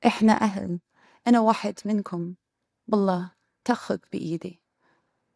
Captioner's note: speaking in foreign language